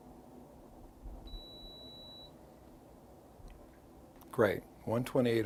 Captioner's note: beeping